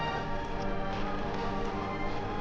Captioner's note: horses hooves